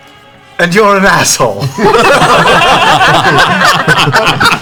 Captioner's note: laughter